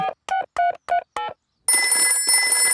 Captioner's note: dialing; telephone ringing